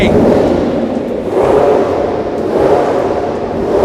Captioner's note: engine revs loudly